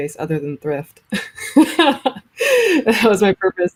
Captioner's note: laughs